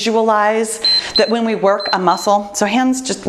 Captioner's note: timer beeps